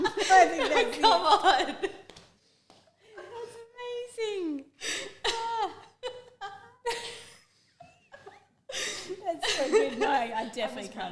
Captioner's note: still laughing; both wheezing